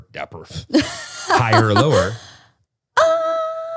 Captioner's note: laughing